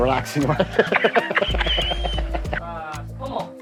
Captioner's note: laughing